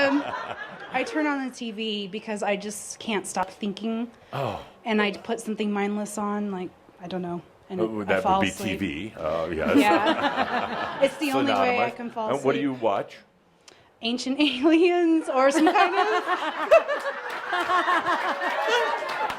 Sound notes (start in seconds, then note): 0.0 laughter; 9.7 laughter; 15.6 lots of laughter